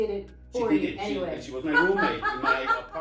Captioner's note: laughs